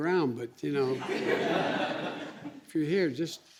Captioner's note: laughter